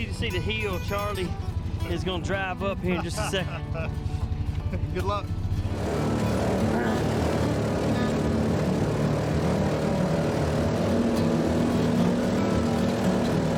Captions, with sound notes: I want you to see the hill that Charlie is gonna' drive up here in just a second. (laughing) - Good luck. (engine revving)